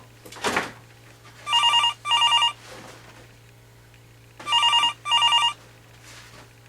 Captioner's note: phone ringing